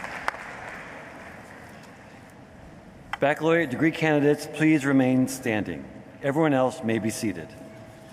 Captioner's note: applause